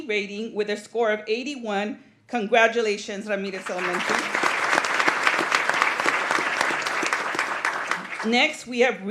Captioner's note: applause